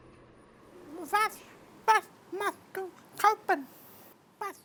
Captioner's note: German